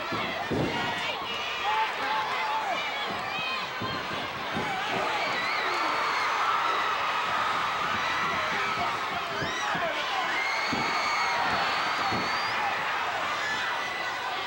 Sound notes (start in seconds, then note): 0.1 floor banging; 6.0 audience cheering continues